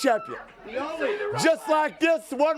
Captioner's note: crowd chatter